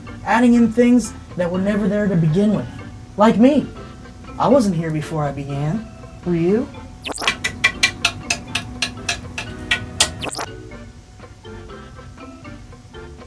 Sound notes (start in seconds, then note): 7.3 tapping easel